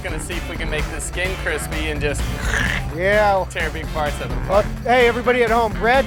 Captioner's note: makes wrenching noise